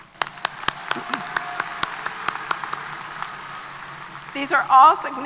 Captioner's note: applause